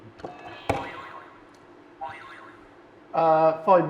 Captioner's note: buzzer blares